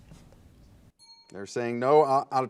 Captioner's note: ding